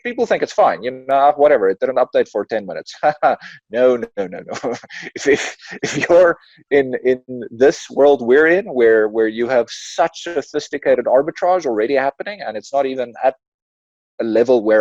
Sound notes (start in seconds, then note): 3.2 laughs